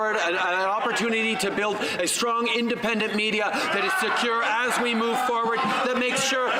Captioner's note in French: voix de l'interprète